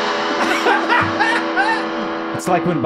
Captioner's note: upbeat guitar music; Charlie laughing